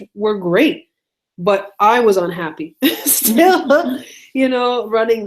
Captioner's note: laughs